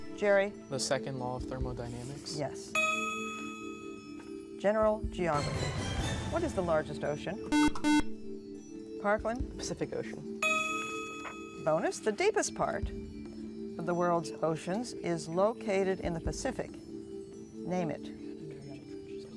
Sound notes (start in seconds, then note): 7.5 buzzer; 10.4 ding; 17.6 whispering